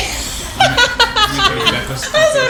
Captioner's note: laughing